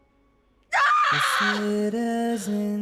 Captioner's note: screams